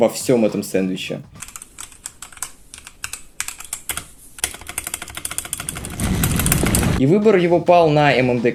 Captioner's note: stock typing